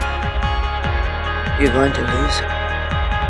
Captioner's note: voiceover